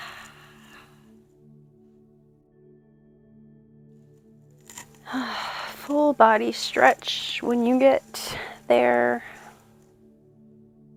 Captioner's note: sigh